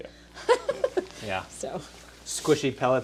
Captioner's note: laughing